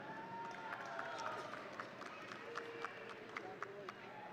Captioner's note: audience cheering